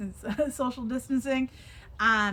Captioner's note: chuckles